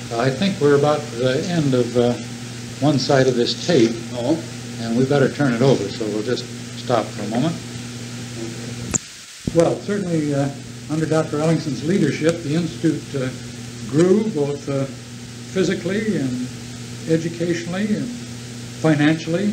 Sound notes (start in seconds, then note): 7.5 tape changes